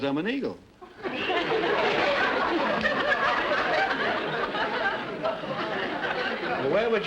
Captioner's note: audience laughter